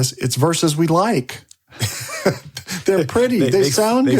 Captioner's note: laughs